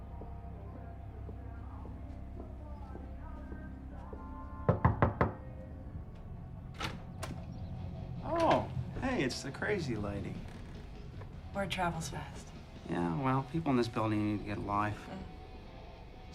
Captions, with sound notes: (footsteps thumping) (door knocks) (door latch clicks) - Oh, hey, it's the crazy lady. - Word travels fast. - Yeah, well, people in this building need to get a life.